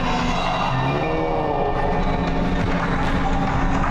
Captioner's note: angry growling